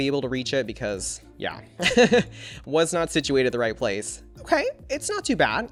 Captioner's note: laughs